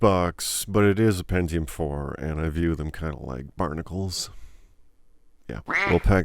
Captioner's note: quack Sound